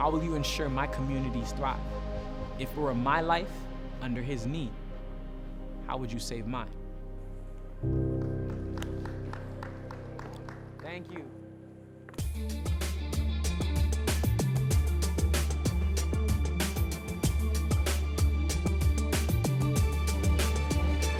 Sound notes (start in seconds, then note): 10.7 applause